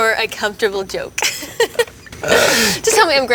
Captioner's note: Zendaya laughing